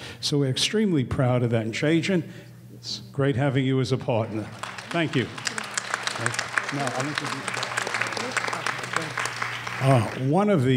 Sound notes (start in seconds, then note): 4.3 applause; 7.3 speaking off mic